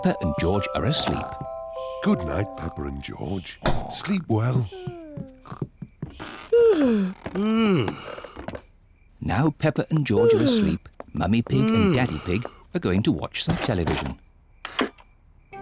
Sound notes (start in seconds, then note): 6.2 yawns